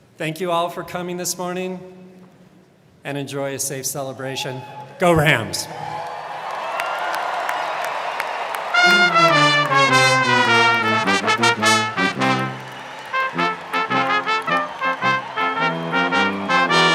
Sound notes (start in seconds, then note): 6.5 crowd cheering; 8.7 orchestral music